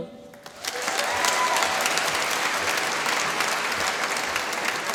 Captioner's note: applause